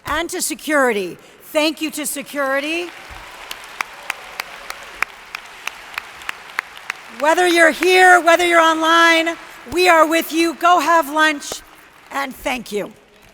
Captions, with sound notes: And to security, thank you to security. (audience applauds) Whether you're here, whether you're online, we are with you. Go have lunch, and thank you.